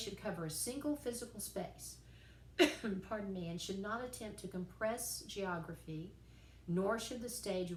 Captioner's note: cough